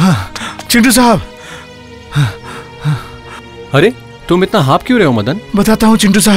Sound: panting

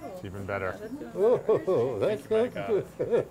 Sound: laughs

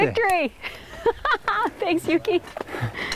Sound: laughter

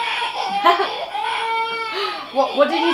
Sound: laughs

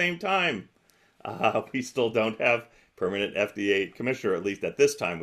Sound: chuckles

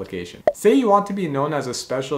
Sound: bubble popping

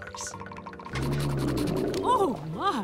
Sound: grumbling

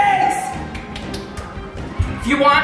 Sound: feet clapping

